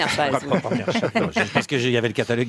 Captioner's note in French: rires